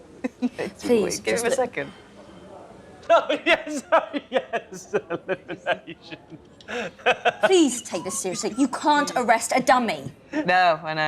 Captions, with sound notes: Please - Give him a second. Oh yes, oh yes! [laughs] Elimination! Please take this seriously: you can't arrest a dummy No, I know, no: same reason you can't arrest a dog